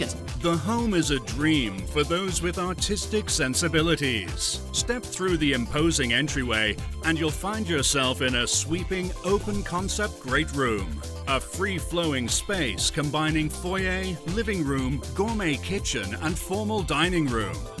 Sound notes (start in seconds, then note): none